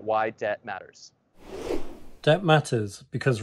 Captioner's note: whoosh transition sound effect